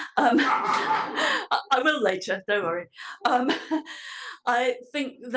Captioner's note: laugh